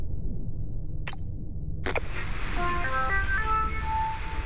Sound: button press, radio jingle

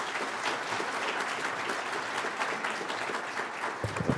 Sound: applause

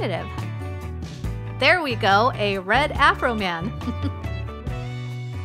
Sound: chuckle

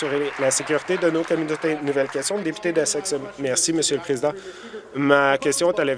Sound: applause

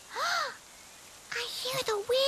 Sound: gasps

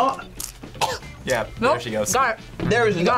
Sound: coughs

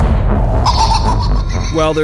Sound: sinister laughter

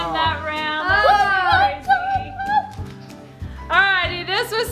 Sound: squeals

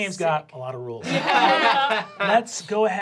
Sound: laughing

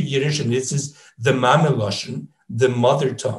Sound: speaks in foreign language

